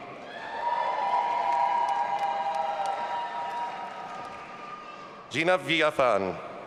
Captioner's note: audience applauding and cheering